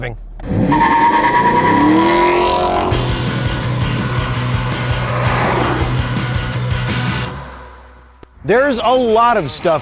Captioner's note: car accelerating